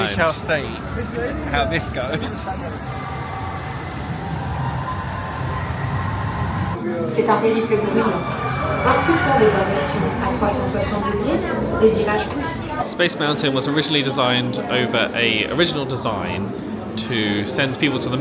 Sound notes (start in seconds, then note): 4.3 distant screams of guests; 7.1 safety officer speaking in French